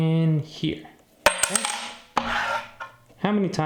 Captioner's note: coin clangs